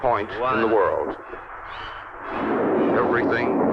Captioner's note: rocket rumbling